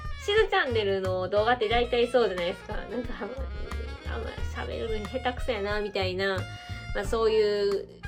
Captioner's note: laughs